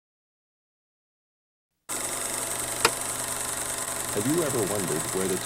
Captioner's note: projector clicking